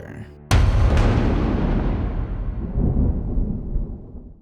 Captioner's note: thunder rumbling